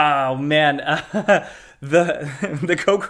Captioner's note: laughing